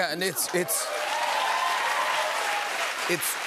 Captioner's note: cheers and applause